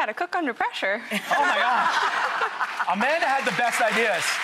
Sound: Rachael laughs

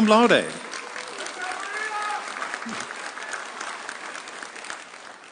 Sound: audience cheering

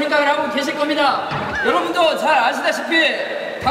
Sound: laughs

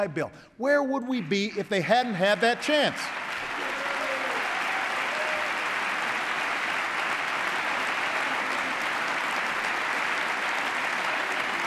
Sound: applause

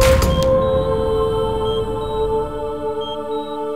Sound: monitor beeping

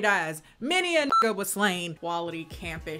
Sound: beep

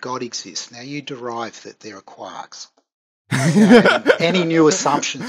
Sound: laughs

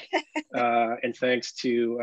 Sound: laughs

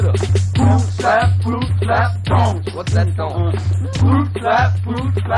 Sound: unh

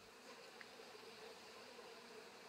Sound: humming

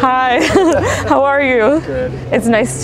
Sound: both laughing

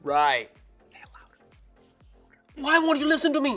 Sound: whispering

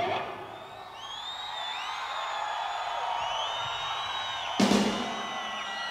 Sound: audience applauding and cheering

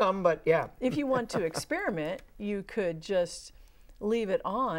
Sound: laughing

